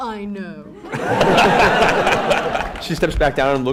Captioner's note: laughter